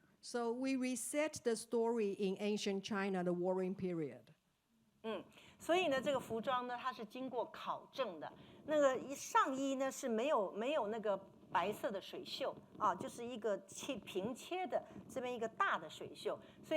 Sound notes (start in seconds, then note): 5.7 speaking Mandarin